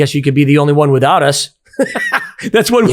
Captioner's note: laughing